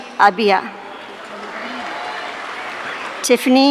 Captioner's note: audience cheering